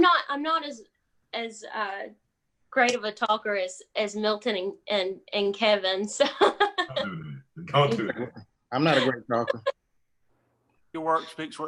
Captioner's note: laughs